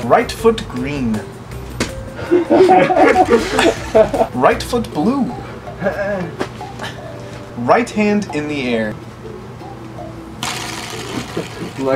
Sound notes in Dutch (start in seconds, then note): 2.2 Gelach